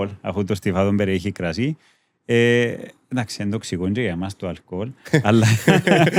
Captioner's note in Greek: γέλιο